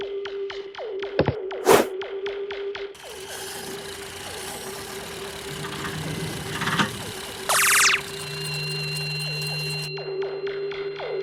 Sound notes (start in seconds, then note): 1.4 vibrations of startup and operation of the device; 1.6 flag swing; 3.0 noise of the quadrocycle engine; 3.0 vibrations of startup and operation of the device; 6.2 crackle of lowering the lever; 6.2 noise of the quadrocycle engine; 6.2 vibrations of startup and operation of the device; 7.3 noise of an quadrocycle engine; 7.3 squeak of the portal; 7.3 ticking of the clock; 7.3 vibrations of starting and operation of the device